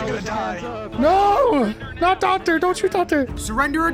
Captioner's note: yells